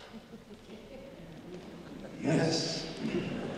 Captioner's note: audience chuckling